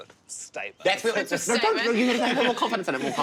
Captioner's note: excited shouting